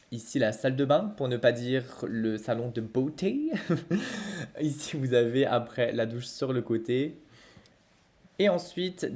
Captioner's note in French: rire